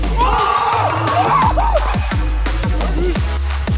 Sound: cheers

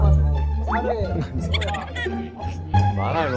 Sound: laugh

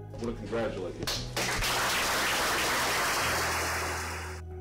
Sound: applause

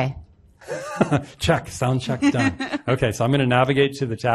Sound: laughs

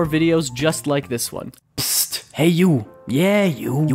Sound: brooklyn accent

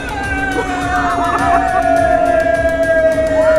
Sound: yelling

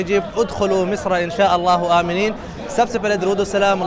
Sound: Arabic

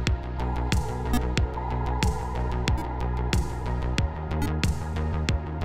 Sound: electronic beeping

